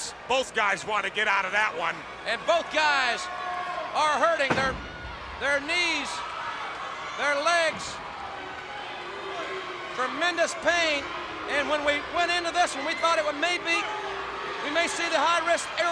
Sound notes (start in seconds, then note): 4.5 body thudding; 10.8 crowd clamoring